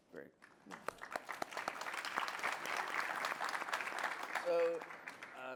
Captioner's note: applause